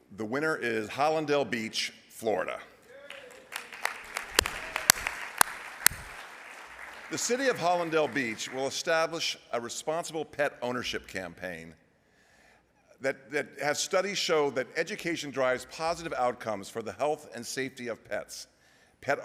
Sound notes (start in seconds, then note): 2.8 applause